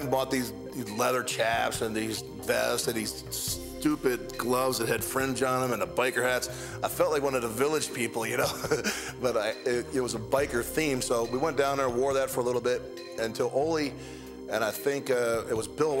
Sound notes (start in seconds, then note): 8.4 laugh